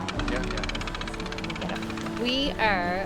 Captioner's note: fishing reel cranking